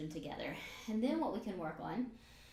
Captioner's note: breathes out